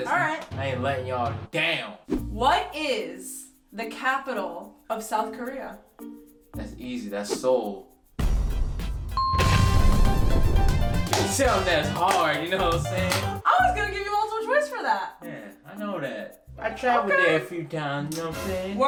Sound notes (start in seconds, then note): 8.2 fiesta music; 9.2 bell dings; 9.3 explosion